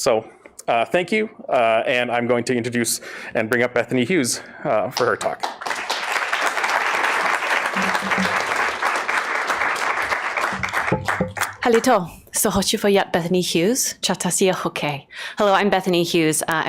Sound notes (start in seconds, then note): 8.5 applause; 10.0 foreign language